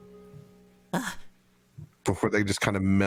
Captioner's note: Scrappy soft gasp